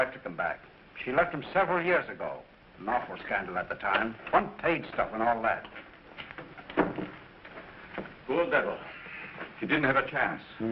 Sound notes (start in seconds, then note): none